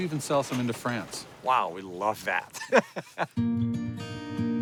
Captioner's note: laughing